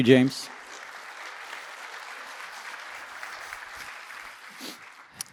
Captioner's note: applause